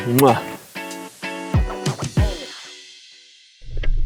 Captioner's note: lips smacking